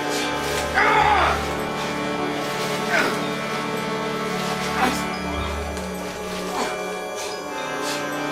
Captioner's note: incoherent screaming and grunting